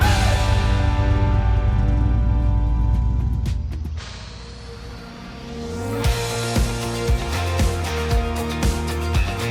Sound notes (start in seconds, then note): 0.0 engine revs; 5.8 upbeat music